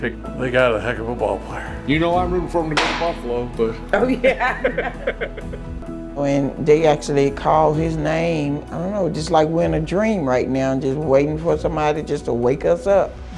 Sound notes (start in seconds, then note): 4.0 laughing